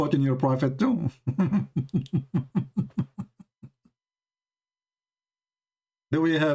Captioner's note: Ketawa